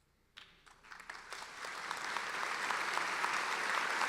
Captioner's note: applauding